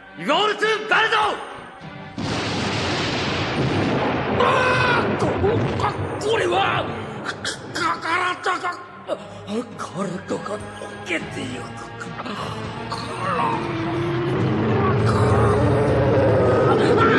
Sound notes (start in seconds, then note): 2.1 SFX: explosion